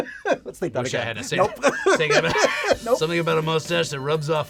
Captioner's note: laughter